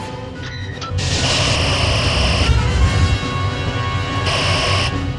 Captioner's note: phasers fire